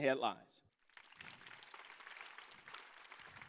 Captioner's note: applause